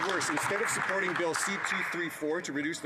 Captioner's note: some Applause